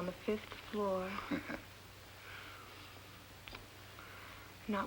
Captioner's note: Andy chuckling